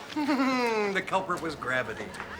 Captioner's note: chuckles